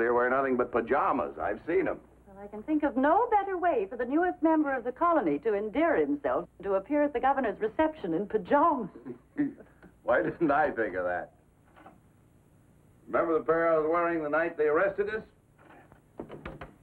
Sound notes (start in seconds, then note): 12.2 laughs